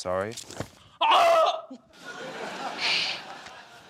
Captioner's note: screams